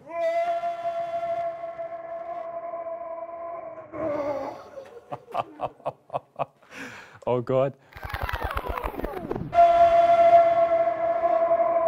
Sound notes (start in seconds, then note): 0.0 screams; 3.9 moans; 10.5 screams